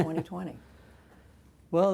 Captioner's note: laughter